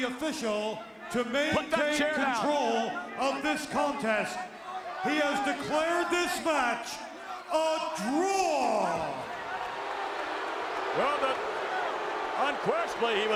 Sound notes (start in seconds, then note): 8.0 crowd boos